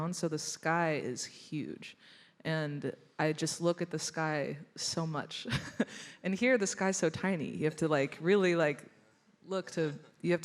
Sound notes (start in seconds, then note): 5.4 chuckles